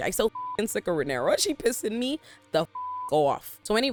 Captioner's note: beep; beep